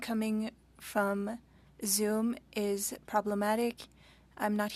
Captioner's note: speaking French